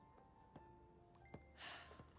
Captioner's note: sighs